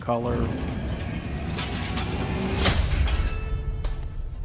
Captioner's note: keys jangling